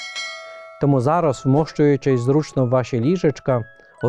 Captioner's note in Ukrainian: дзвін